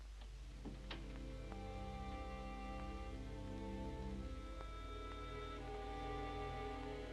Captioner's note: melancholy orchestral music; door closes